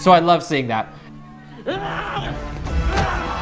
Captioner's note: Robby roaring; dramatic melodic music